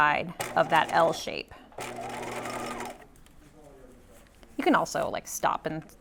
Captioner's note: sewing machine whirring